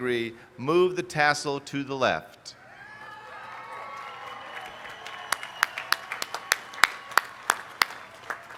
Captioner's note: cheers